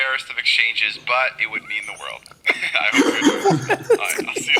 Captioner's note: laughter